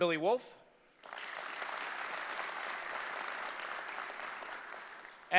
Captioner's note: applause